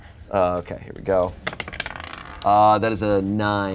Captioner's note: dice rolling